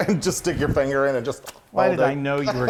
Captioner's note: lips smacking